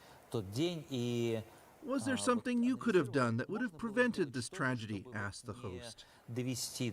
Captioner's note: speaking russian